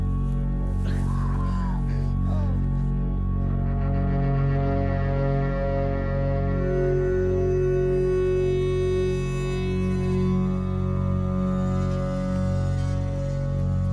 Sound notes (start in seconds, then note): 1.0 screaming, then moaning; 4.9 soft music; 11.7 soft music